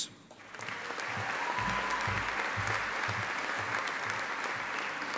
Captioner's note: audience applauding